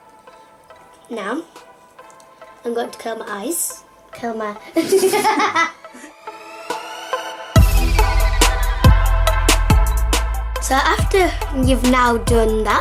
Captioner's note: laughs